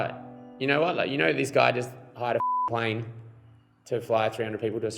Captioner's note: beeping